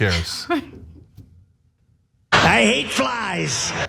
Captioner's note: laugh